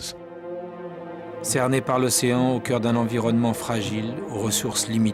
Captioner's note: in french